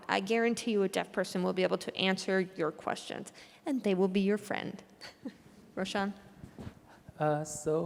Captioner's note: laughter